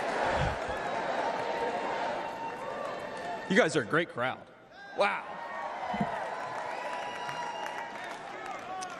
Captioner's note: crowd chanting